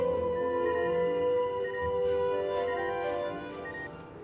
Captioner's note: alarm beeping